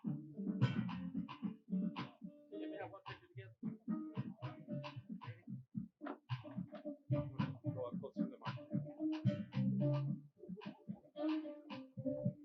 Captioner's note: applause